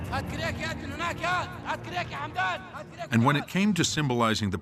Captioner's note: speaking Arabic